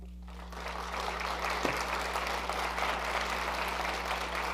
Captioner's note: audience applauding